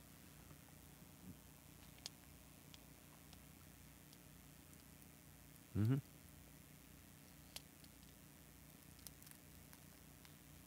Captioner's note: laughs